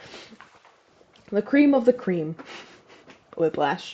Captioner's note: laugh